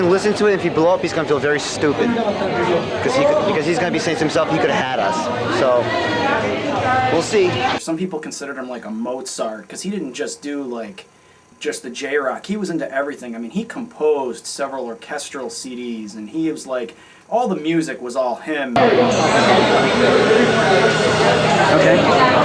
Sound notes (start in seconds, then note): 18.7 crowd chatter